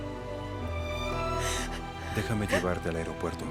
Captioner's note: Solloza